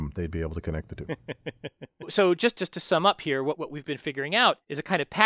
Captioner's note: laugh